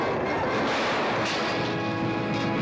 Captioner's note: glass exploding